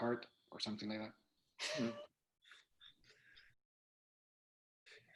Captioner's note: loud laughter